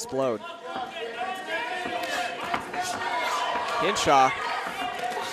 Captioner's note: audience cheering